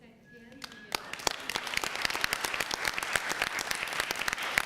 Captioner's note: applause